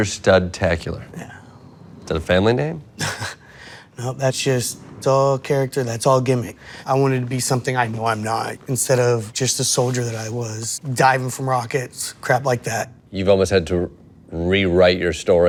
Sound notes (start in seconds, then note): 3.0 laughing